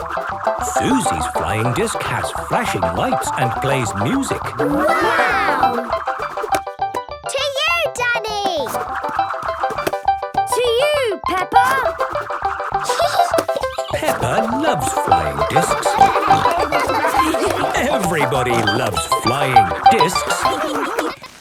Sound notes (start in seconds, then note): 12.8 giggling; 16.0 snorting and laughter; 19.5 laughter